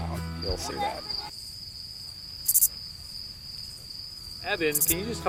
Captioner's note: cricket noises